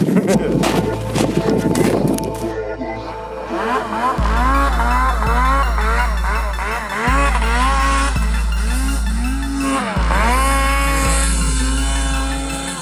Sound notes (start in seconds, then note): 0.0 chuckles; 3.8 snow mobile engine revving; 6.3 playful music